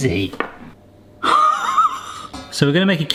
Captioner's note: laughs